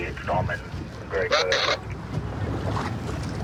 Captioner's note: radio communication